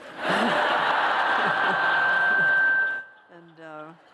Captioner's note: laughter